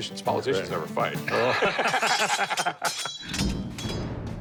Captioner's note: laughter